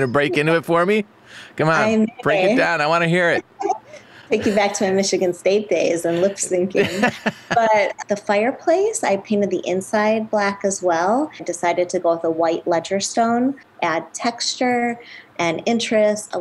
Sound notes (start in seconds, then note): 6.7 laughing